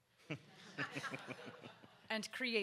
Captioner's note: audience laughs